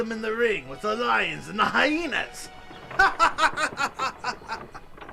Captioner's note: 笑声